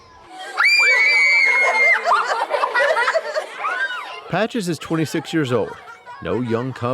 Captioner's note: kids screaming